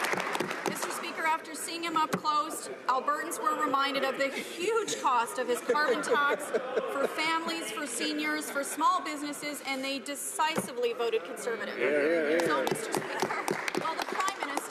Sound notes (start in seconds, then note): 1.9 some Applause